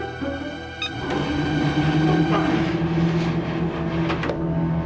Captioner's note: whirring